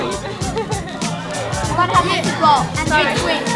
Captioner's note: background chatter